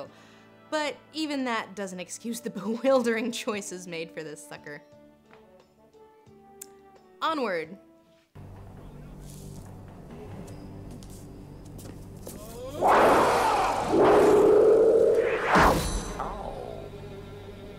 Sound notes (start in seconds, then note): 12.7 roars